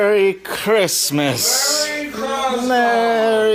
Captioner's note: in a strange accent